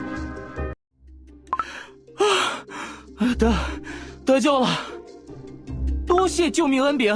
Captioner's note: sigh